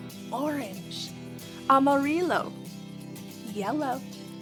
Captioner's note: speaking in foreign language